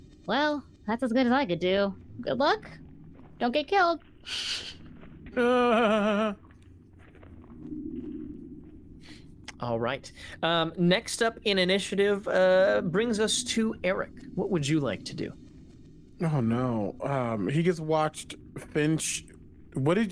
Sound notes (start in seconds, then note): 5.0 shudders